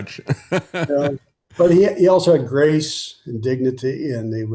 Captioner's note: laughing